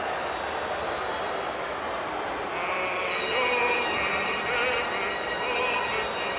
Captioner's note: crowd shouting; wrestlers singing in Russian